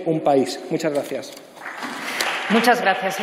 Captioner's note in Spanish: Aplausos